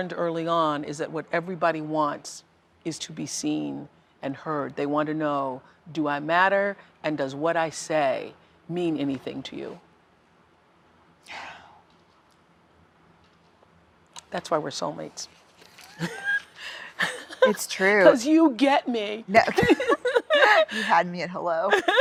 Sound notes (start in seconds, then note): 9.0 exhales deeply; 15.9 laughs; 21.7 both laugh